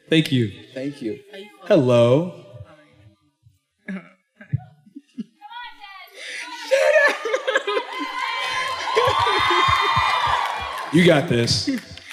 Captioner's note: laughter, cheers